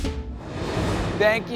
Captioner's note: air whooshing